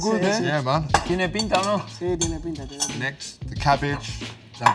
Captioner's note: Spanish